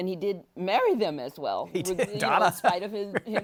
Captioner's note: laughs